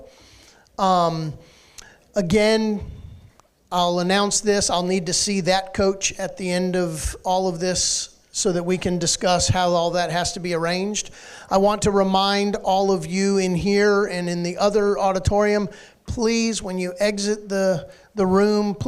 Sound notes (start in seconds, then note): none